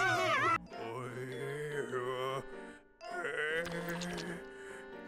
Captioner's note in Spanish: personaje paterno gimiendo